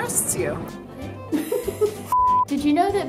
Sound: laughs

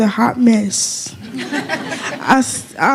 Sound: laughter

